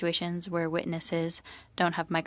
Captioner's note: speaking French